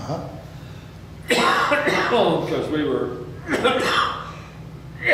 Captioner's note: coughs